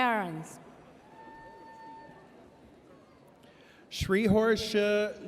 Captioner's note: audience cheers